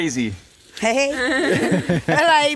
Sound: laughing; speaking Romanian

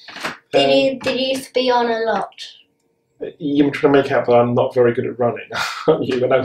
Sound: laughing

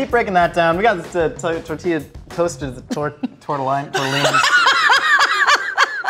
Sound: stammering; laughing

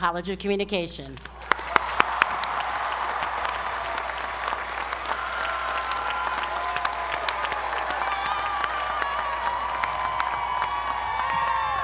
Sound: applause

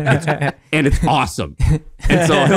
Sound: laughing

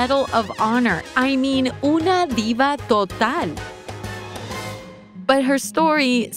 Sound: speaks in foreign language

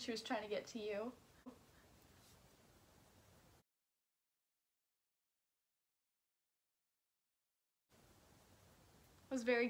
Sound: dead silence

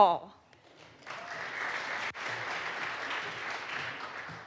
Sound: audience applauds

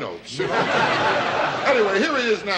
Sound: audience laughs

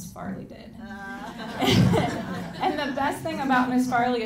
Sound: audience laughing

